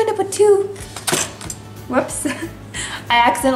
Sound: container thuds; laughs

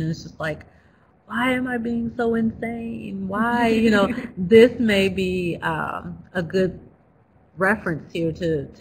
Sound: laughs

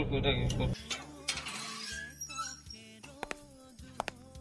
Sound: opening of gate sound

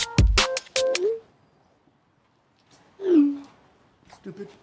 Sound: notification alert

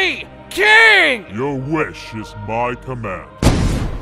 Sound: poof

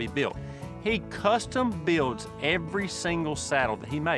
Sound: none

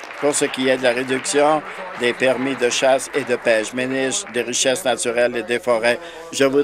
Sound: some Applause

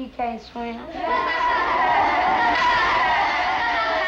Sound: laughter

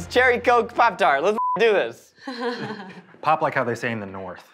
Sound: beep

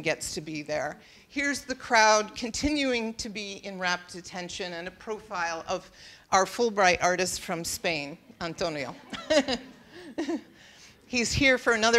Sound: laughing

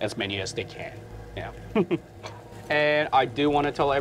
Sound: chuckles

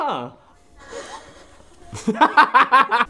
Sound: laughs silent-style; laughs

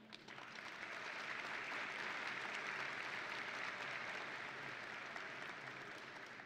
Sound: audience and graduates applauding

